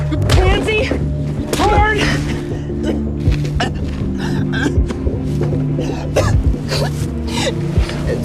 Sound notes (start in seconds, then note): 4.2 sobbing; 6.0 coughing